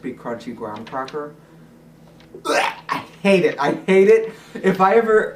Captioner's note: gag sound